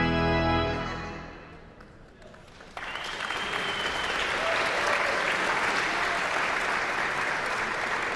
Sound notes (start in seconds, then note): 2.0 guests applauding and cheering